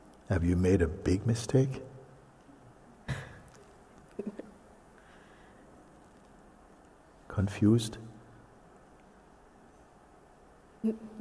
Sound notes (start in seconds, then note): 4.1 laughs